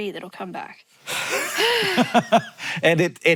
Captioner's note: Hank laughs; Maya sighs